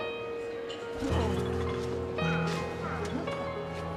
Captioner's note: people struggling less audible